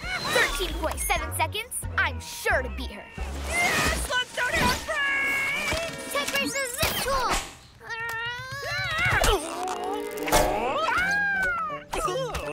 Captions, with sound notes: On it. 13.7 seconds! I'm sure to beat her! Yaah! Slugs don't have brakes! Tech Racer Zip Tool! - (Straining) - Aaah! Aaah! Oof!